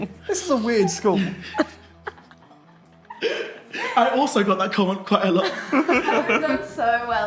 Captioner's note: laughing